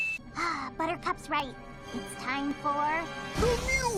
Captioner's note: sigh